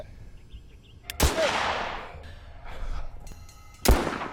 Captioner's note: gun bangs; gun bangs